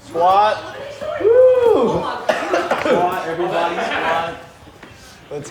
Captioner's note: coughs